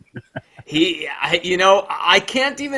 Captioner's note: laughs